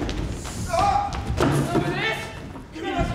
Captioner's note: Sly cries out